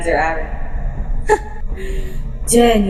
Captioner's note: the empress scoffs